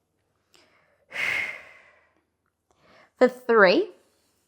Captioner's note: breathing sharply